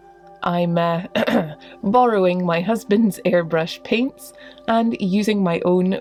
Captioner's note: cough